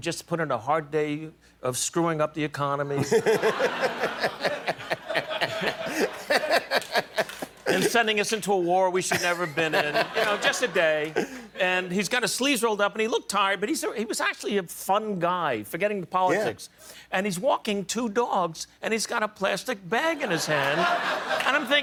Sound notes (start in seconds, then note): 7.3 laughter